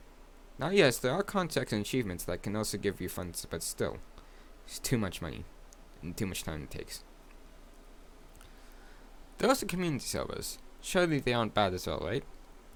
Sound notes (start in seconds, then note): 7.0 silence in the court